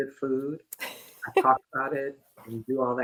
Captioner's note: laughter